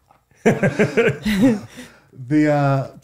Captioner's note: laughing; laughs